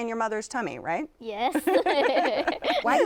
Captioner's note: both laughing